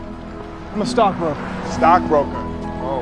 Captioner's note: laughs